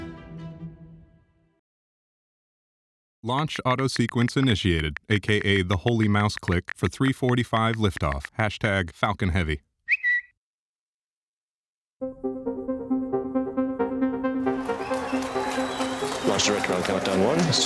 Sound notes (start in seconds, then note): 14.4 crowd cheering and applauding